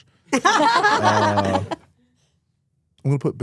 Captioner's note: both laugh